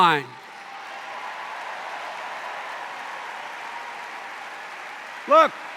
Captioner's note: cheers and applause